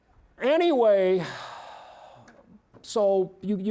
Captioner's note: exhaling